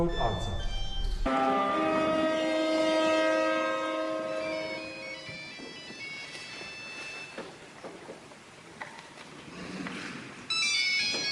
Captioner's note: phone ringing